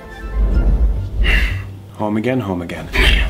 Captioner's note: exhales loudly